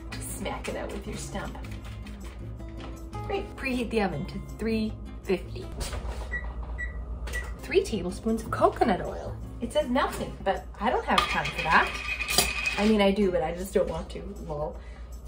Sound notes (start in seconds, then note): 6.3 oven buttons beep